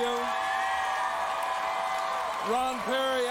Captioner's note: applause and cheering